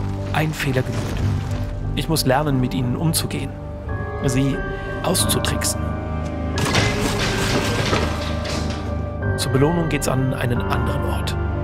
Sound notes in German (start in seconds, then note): 6.2 Rumpeln, Krachen